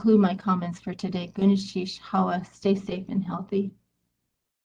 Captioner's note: speaking in native language